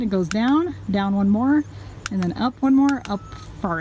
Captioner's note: click